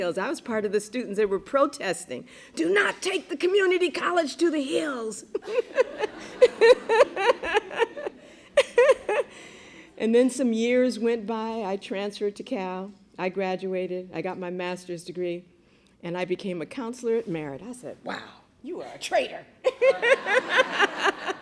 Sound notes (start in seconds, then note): 5.2 laughter